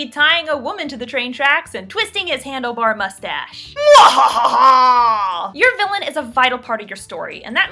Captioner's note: evil laugh